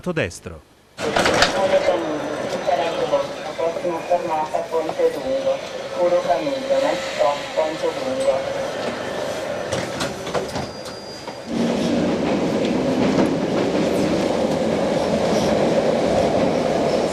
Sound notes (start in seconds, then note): 1.0 automated announcments